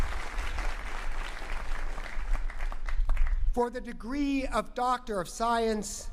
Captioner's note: applause